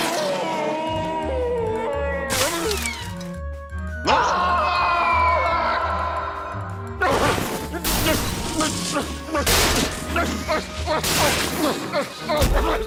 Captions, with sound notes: OHHHH! AAAH! OHHH! (grumbling)